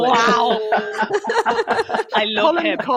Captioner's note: laughter